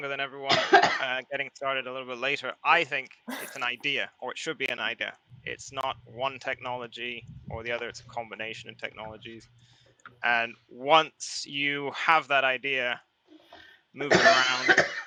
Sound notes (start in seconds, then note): 3.3 laughs